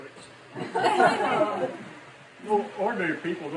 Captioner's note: laughter